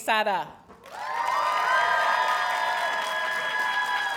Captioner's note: audience cheers and applauds